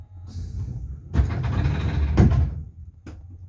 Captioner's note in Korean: 출입문 열림